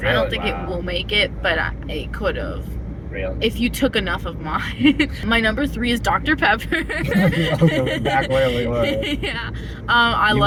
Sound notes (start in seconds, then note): 6.7 laughing; 6.7 laughter